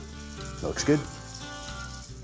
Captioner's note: sizzling sound